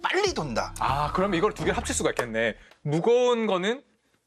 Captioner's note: clap